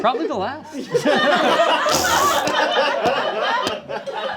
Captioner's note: crew laughs